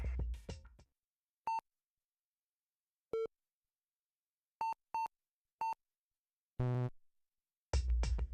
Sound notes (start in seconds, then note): 1.4 beeping